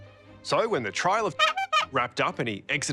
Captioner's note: horn sounds